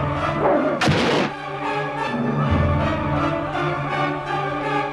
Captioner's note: sword stabs